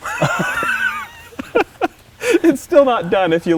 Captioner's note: laughter